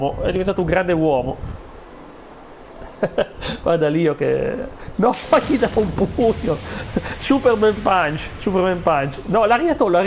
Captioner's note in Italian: risate